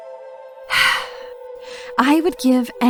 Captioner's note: sighs